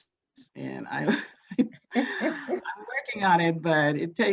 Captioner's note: laughs